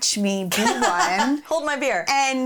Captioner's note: laughing